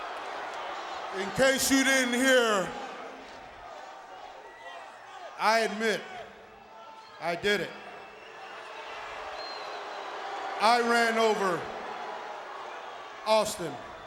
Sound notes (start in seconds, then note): 8.3 audience booing